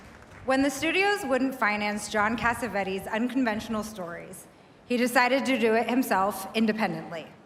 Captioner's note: applause